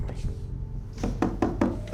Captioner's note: taps on glass